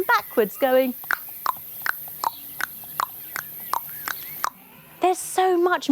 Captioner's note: mimicking the trotting of a horse